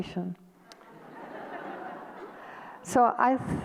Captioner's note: audience laughter